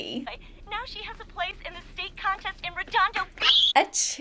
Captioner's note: screams